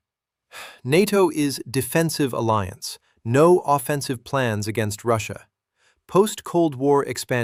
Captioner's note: exhales sharply